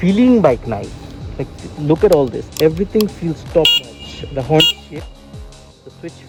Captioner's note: honk